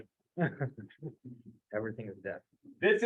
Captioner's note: laughter